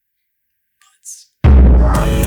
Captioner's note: whispered; outro Theme Music